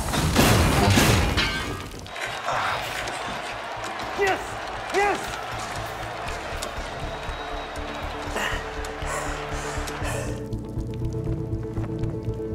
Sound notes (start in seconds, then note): 6.0 crowd cheering; 8.9 light electronic music